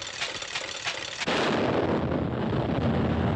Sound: tank Fire

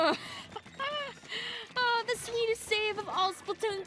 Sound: laughing

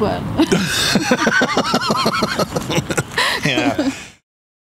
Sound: laughing

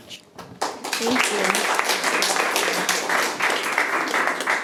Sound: attendees applauding

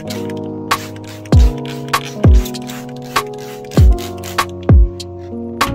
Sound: spray ASMR

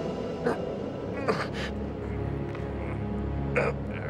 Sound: Leon grunts

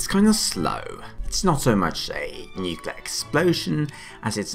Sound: explosion

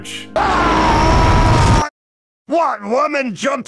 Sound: Demoman charge sound; Demoman AI voice

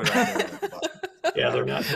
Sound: laughter

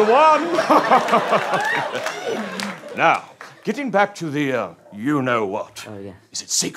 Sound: laughs

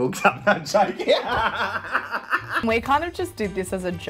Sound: laughs

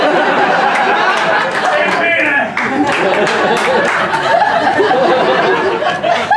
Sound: laughter

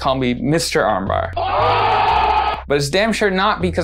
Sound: people cheering

